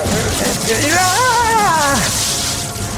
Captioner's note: moans in pain; screams in pain